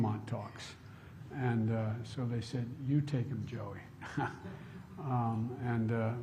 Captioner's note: laughs